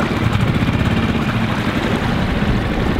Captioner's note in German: Motor dreht; Fluss fließt stark